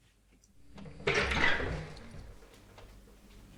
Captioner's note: door opening